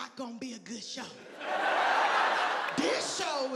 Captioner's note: audience laughing